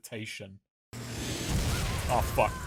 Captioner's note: explosion